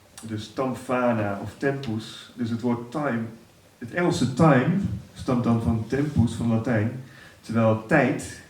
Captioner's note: Latin